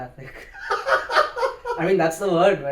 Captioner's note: laughs